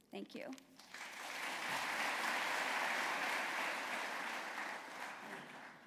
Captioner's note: applause